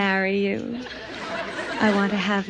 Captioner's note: audience laughs